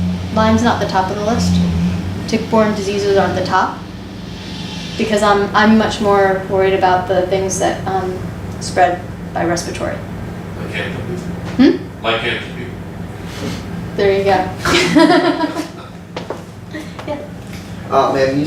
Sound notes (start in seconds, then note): 11.9 faintly speaking; 14.6 and student laugh